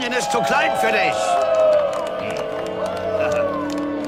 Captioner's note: people cheering